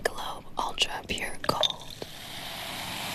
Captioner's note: whispering